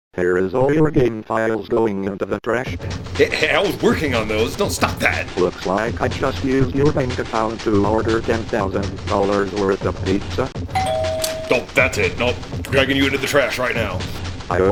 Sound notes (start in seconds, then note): 10.7 door bell sound